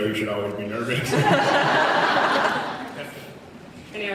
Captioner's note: laughs